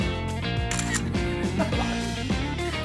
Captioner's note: munch munch